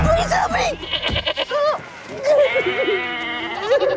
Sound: goats bleating; whimpering, crying

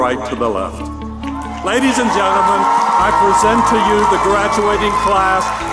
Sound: applause

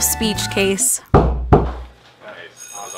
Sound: knock, knock; knock, knock from somewhere

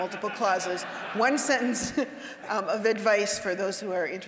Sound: audience laughing

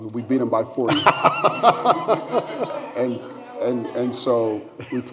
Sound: laughter

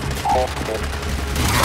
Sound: gunfire

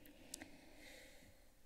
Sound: clicks tongue; inhales

